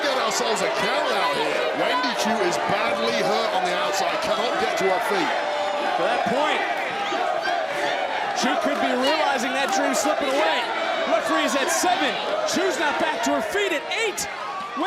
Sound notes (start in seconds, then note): 6.4 crowd chants